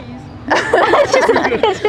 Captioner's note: all laughing